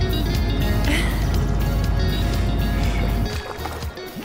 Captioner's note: Chuckles